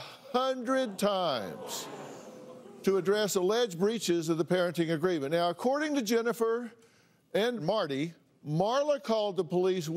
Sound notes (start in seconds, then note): 0.5 crowd murmurs